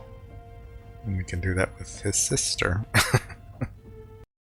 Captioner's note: chuckling